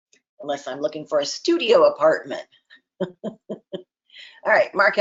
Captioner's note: chuckles